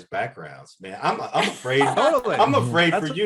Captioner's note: panelists laughing